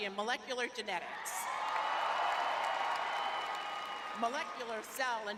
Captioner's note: cheering